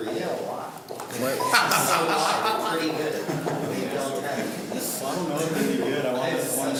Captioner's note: group laughs